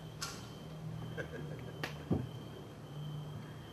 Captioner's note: γέλιο